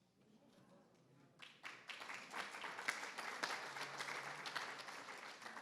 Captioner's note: attendees applauding